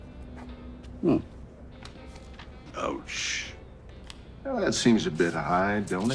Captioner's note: none